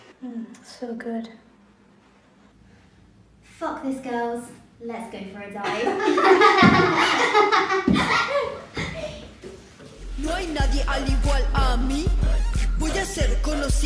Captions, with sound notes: Mmmm, so good. Fuck this girls, let's go for a dive. (all laugh). (same hip hop song).